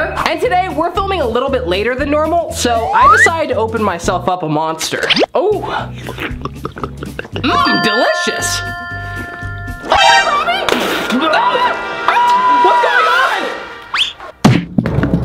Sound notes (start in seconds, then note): 5.6 gulping sound; 11.7 upbeat music